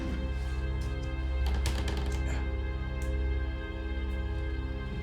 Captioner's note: step creaking